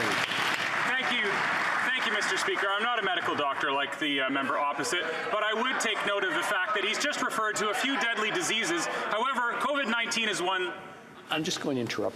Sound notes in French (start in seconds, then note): 4.2 voix de l'interprète